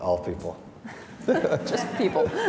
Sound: audience laughing

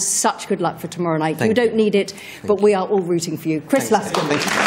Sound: applause

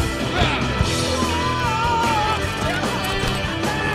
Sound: screaming

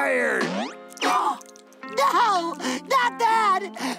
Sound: gasping

